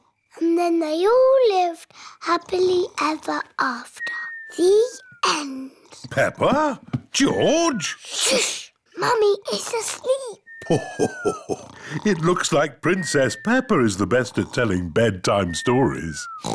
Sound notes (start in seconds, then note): 4.0 snoring; 10.6 laughs